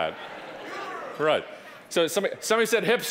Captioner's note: audience laughing; audience murmuring